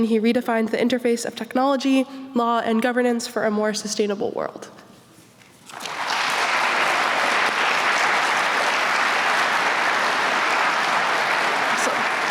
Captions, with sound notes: he redefined the interface of technology, law, and governance for a more sustainable world. [APPLAUSE]